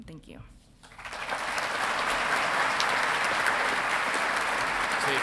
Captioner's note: audience clapping